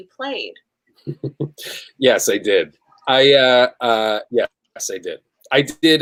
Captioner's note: laughs